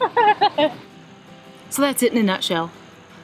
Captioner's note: laughing